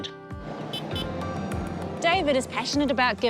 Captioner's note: horn beeps